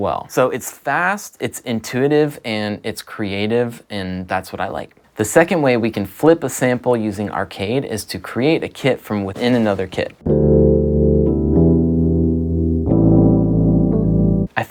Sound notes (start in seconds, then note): 8.8 graphics shuffling softly; 10.2 low electronic music